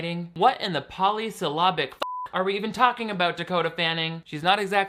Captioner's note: beep